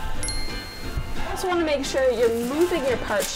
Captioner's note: bright chime